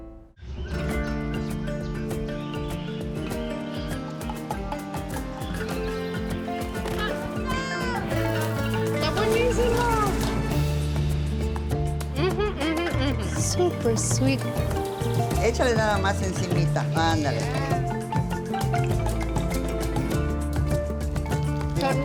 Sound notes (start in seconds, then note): 0.2 birds chirping; 6.9 child shouts; 8.9 speaking Spanish; 15.9 speaks Spanish; 21.8 speaking Spanish